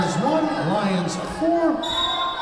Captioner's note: whistle blowing